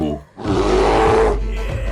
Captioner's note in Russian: Боевой рёв